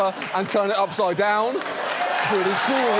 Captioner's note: studio audience cheers, applauds